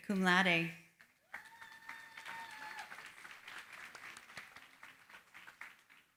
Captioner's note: applause